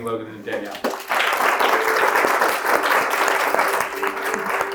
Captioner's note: audience applauding